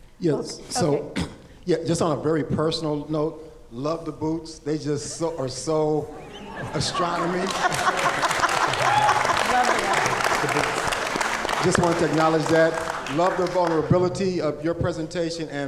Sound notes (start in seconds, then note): 6.6 audience clapping